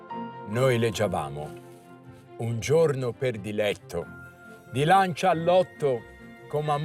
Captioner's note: reciting from Dante's Inferno